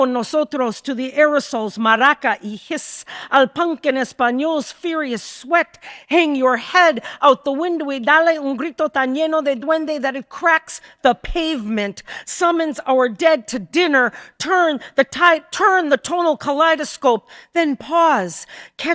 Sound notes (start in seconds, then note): 9.1 speaking in Spanish